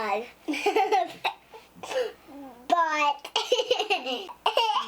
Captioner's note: laughter; more laughter; belly laughter